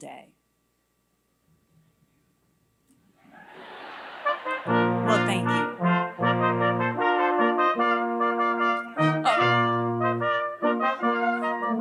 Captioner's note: laughter